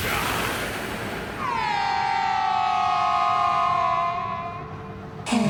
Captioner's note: the Duchess yells